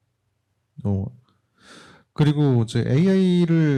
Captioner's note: speaking korean